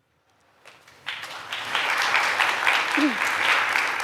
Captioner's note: applause